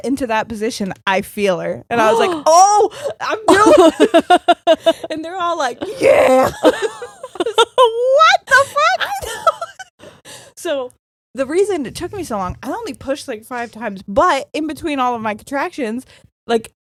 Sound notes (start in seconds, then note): 2.9 gasping